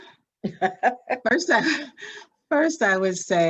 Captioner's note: laughs